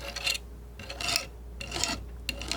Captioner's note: scraping